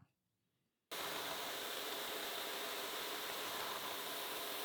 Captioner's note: machine whirs